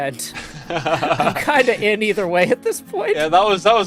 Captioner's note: laughs